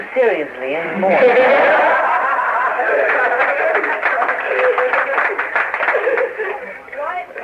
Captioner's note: laughter and applause